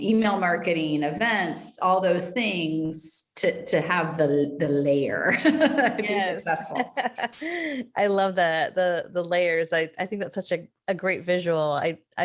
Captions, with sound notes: Email marketing, events, all those things to have the layer (laughing) to be successful. - I love that, the layers. I think that's such a great visual.